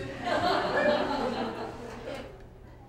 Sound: laughing

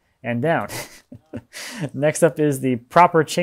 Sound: laughing

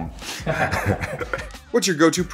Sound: laughs

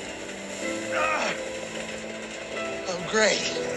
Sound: groans in pain

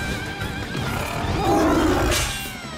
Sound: roaring

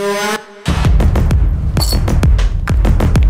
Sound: keys jingle

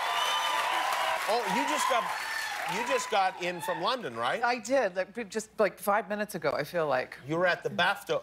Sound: cheers and applause

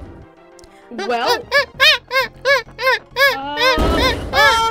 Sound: angry chimpanzee sounds

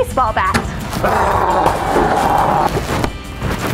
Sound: growl

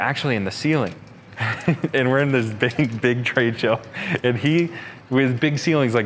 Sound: chuckles

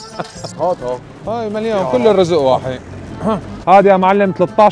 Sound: chatter

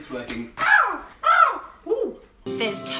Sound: bird noises

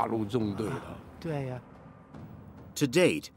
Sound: speaking in foreign language

